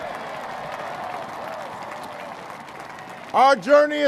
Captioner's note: applause